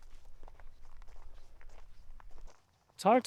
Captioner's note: wind blowing